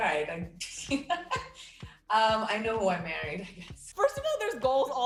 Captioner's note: laughs